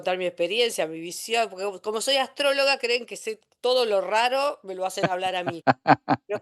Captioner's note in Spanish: risas